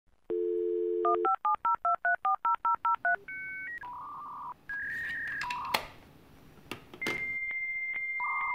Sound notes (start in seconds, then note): 0.8 sound of modem dialing